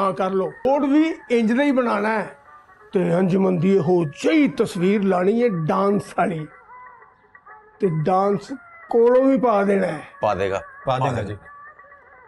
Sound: speaks Punjabi

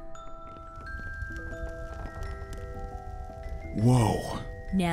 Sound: soft chiming music; fire crackling

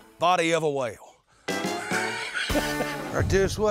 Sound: laughing

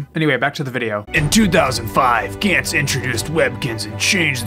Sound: epic announcer voice

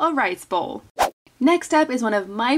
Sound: food container whooshes

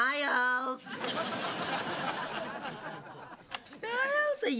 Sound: laughter

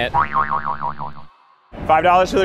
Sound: boing

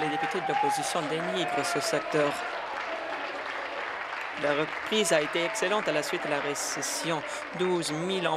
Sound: applause

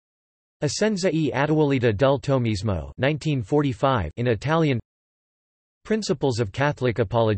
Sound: in Italian

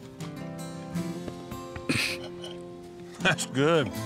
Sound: patting

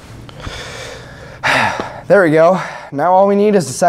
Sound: deep Breath

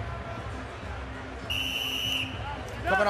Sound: whistle blows

